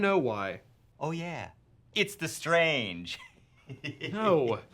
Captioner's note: laughs